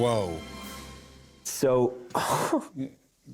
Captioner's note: chuckles